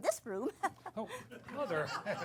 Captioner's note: laughter